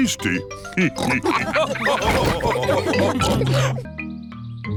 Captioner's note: all laugh